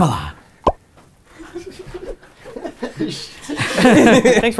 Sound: laughter

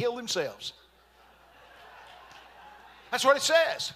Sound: congregation laughing

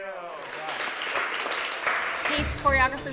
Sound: clapping

